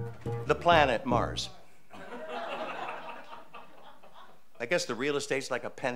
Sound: audience laughing

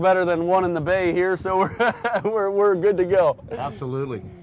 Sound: laughing

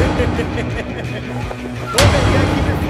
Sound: laughing

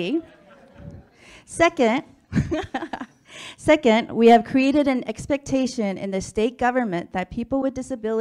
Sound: laughs

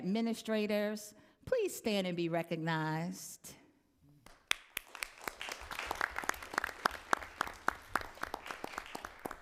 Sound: applause

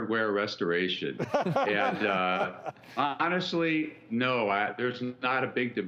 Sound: laughs

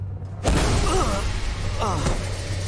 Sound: groaning

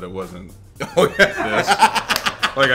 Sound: laugh

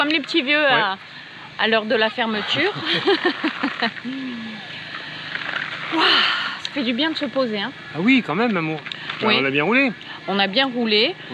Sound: laughs

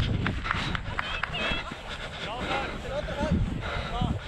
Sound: crowd yelling

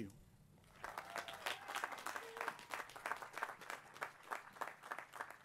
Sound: applause

